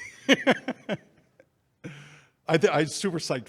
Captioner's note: faintly speaking; Jeff laughing